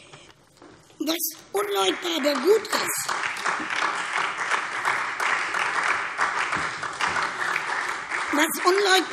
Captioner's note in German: Beifall SPD, Freie Demokraten und vereinzelt DIE LINKE